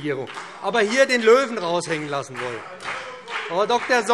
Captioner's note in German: Beifall BÜNDNIS 90/DIE GRÜNEN